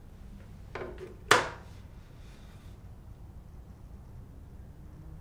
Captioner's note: phone thumping onto desk